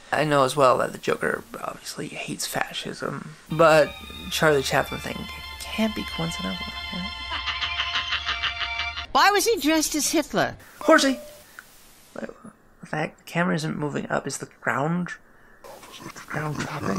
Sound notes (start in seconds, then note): 7.2 Hynkel laughs maniacally